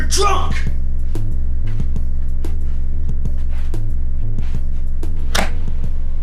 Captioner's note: fighting and scuffling; hard thud